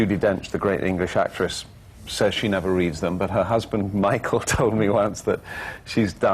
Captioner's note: laughs